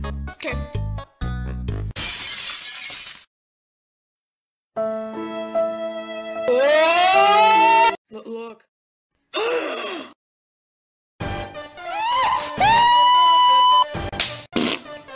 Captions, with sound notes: Okay. [Terrified screaming] Look. [Gasp] MONSTER!!!